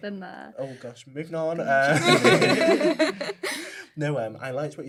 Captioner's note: laugher